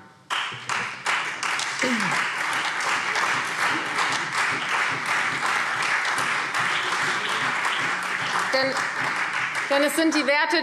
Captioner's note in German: Beifall Freie Demokraten, CDU und vereinzelt BÜNDNIS 90/DIE GRÜNEN